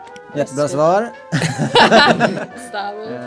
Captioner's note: laugh